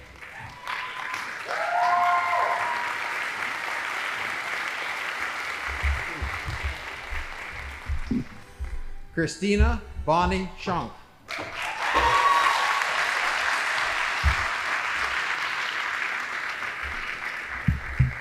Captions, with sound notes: Christina Bonnie Sean. (audience applauding)